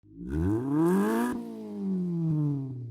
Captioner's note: engine revs